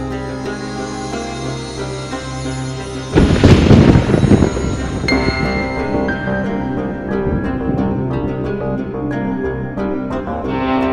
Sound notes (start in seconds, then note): 3.1 Clouds thundering